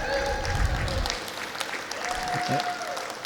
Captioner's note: clapping